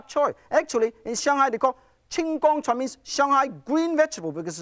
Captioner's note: speaks foreign language